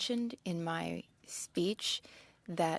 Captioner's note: speaking French